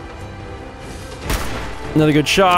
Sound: blam!

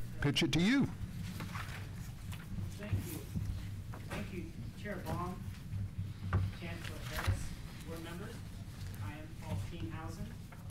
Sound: off mic

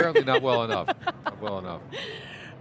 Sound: laughs

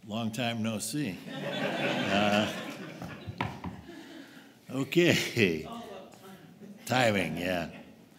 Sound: laughter

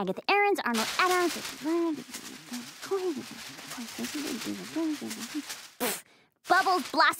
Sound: muttering

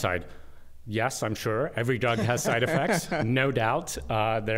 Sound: laughter

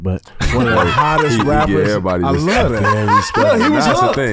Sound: laughs

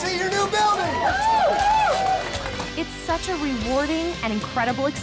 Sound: more cheering

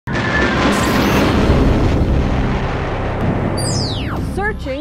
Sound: sound Effects

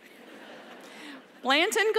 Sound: laughter

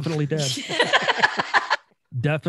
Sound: all laughing

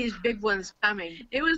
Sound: laughing

